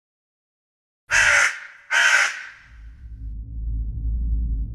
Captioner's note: crow cawing